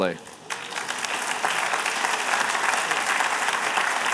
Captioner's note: applause